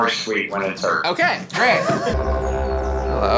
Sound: laughing; deep tense music

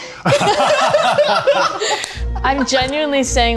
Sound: all laughing

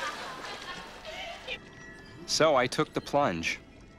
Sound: <i> all laughing</i>

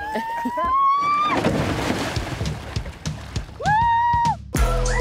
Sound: canoe tipping; edgy music

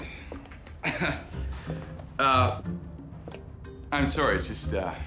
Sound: chuckles

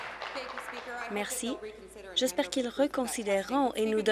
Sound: applause

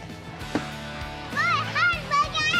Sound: ball thuds

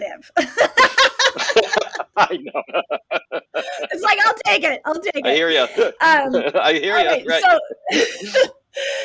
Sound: laughter; laughter

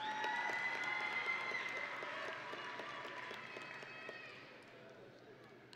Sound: audience and graduates cheering

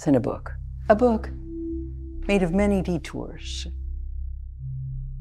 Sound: none

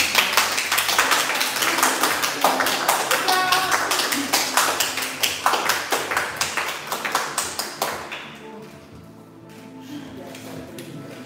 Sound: applause

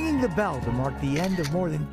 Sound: cheers

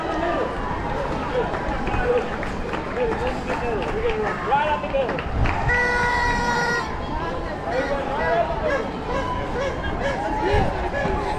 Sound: seriously loud cheering, all the way over tower bridge

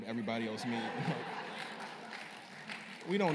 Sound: laughter and scattered applause

